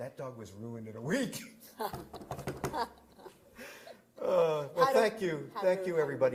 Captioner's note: laughter